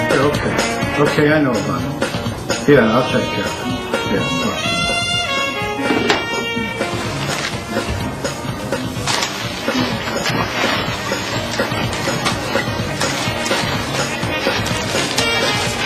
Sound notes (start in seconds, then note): 3.0 knocking